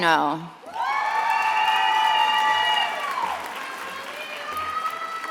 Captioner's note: attendees applauding and cheering